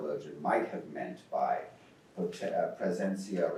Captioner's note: speaks in foreign language